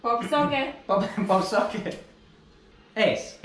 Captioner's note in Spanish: risas